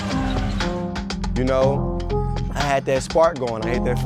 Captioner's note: dink